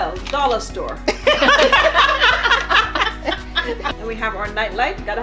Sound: laughing

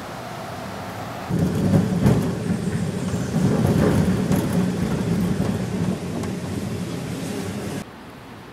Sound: rumbling sound

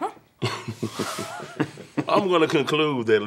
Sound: laughter

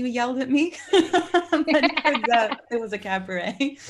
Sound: group laughing

